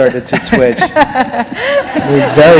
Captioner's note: laughter